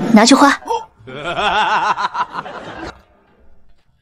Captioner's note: resounding immortal laughter